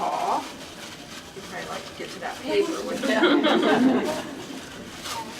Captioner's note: laughter